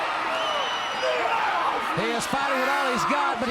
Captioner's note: crowd cheering